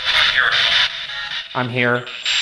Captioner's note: spirit Box crackling